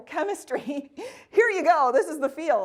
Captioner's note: laughing